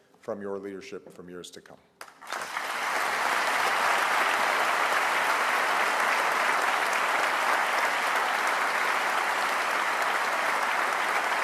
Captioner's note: applause